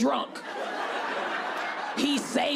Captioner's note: audience laughing